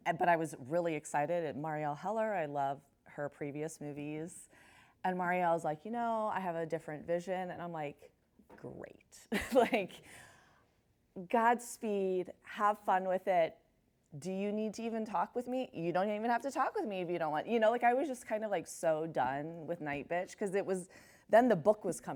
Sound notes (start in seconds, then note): 9.3 chuckles